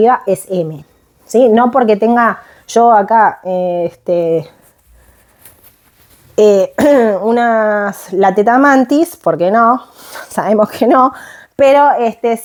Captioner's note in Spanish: carraspeo